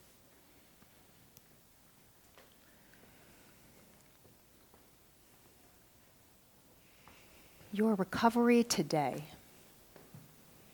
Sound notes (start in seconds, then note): none